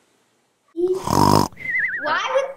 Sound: snoring

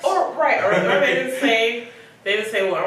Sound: both laugh

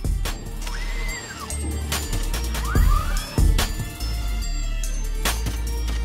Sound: upbeat music; mechanical buzzing

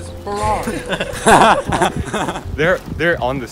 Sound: laughter

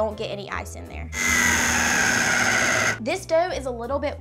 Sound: blender whirring

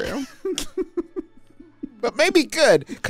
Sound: chuckles

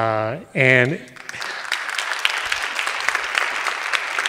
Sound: audience applauding

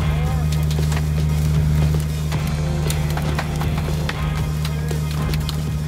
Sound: engine roaring; upbeat music

